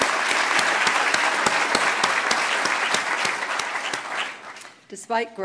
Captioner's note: applause